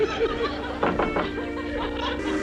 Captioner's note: knocking